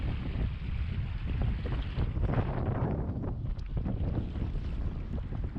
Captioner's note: wind Blowing